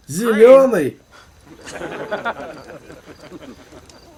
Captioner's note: laughter